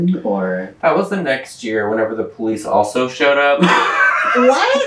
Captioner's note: laughter